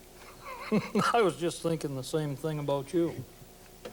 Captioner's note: laughs